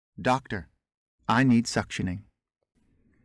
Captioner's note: automated voice